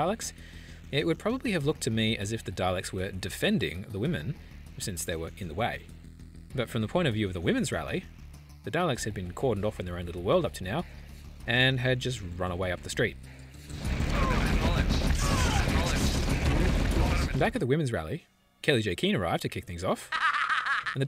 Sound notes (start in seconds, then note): 13.7 red alert gunfire continues